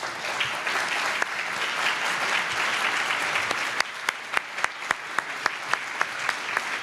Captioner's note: applause